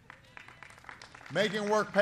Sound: applause

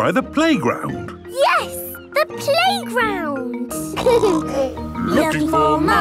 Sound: laughter; snorting

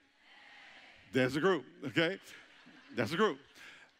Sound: congregation chuckling

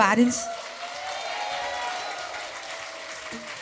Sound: audience cheers

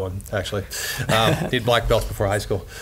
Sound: laughs

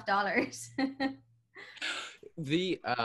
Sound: laughs

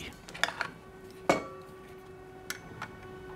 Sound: dull traffic noise

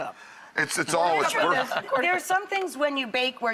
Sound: laughing

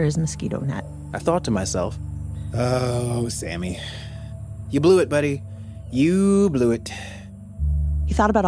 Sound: sighing

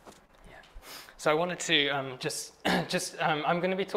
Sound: clears throat

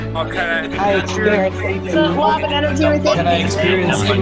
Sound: audience responding

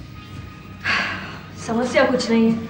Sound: sighs

